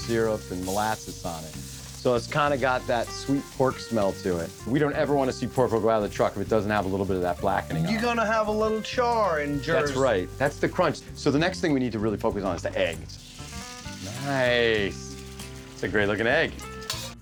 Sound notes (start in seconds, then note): 13.2 grill sizzling